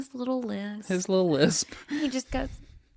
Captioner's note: laughs